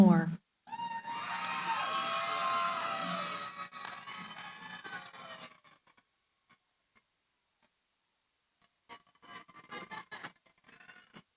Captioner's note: cheering